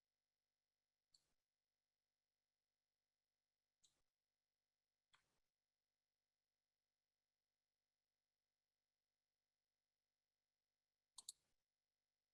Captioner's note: silence